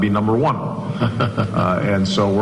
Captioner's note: laughs